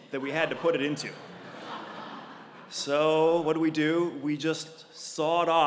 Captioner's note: laugh